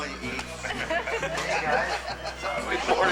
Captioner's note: group laughing